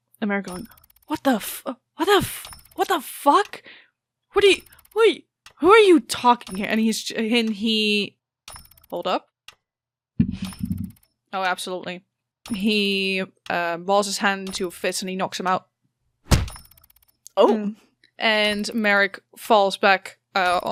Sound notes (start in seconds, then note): 11.1 dice thunks; 16.3 meaty thud